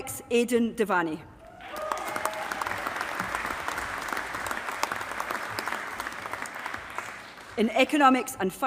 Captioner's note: applause